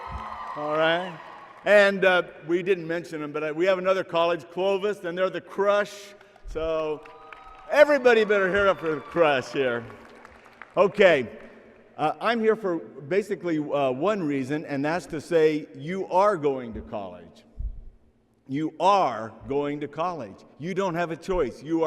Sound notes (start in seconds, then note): 0.0 applause and cheering; 11.7 applause